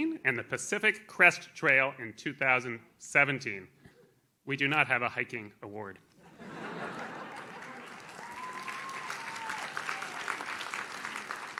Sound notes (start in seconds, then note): 6.2 audience laughs; 6.8 audience claps